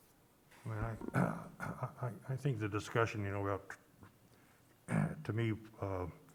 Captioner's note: clears throat